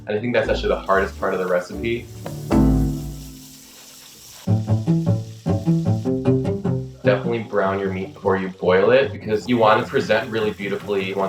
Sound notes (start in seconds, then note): 2.4 water spraying; 4.4 playful music